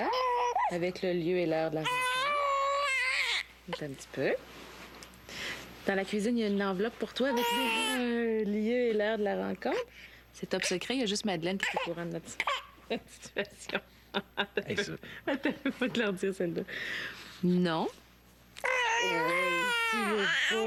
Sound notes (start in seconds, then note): 1.8 Le bébé est hystérique; 12.6 pleurs